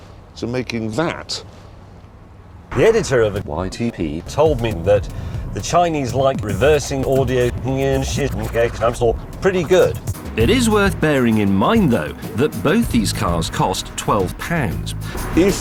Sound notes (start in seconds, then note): 7.8 he speaks in reverse